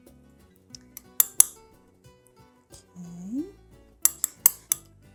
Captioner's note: clinking